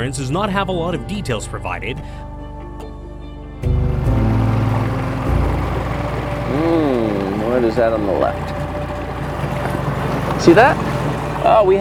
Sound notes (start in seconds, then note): 2.4 somber music continues; 3.6 boat boat engine purring; 3.9 water splashing